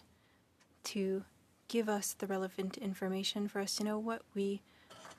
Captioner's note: speaking French